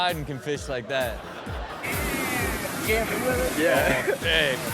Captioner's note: audience laughs